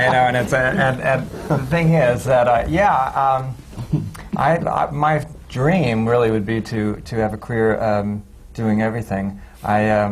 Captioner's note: laughter